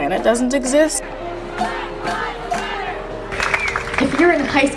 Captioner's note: chanting